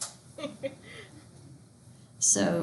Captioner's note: student laughs